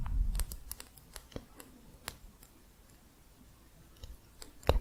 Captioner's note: faint tapping